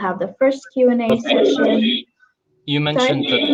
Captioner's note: chatter